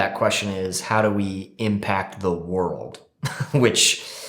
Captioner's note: chuckles